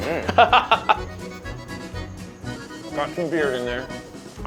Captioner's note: laughing